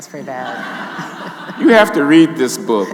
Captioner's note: audience laughing